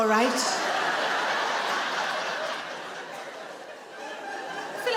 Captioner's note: audience laughing